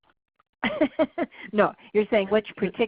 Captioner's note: laughs